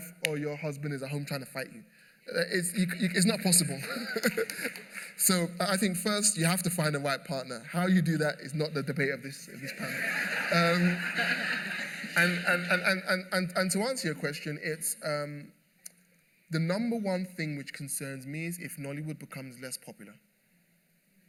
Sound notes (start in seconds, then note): 4.1 applause; 9.6 laughter